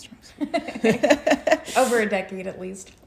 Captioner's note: laughing